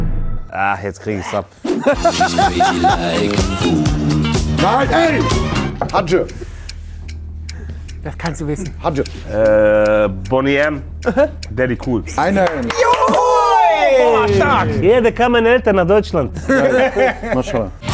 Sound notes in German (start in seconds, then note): 1.6 Lachen; 5.2 Er spricht arabisch; 8.8 spricht arabisch; 16.3 Lachen